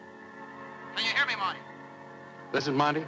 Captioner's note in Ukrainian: Голос за кадром